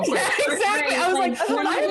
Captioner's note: laughing